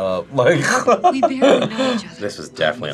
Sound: laughs

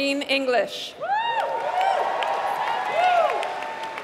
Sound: applause

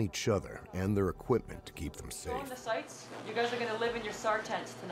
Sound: voiceover

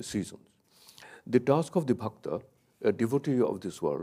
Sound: speaks in a foreign language

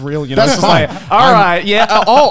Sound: men laughing

